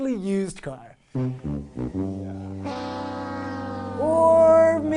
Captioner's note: sad sound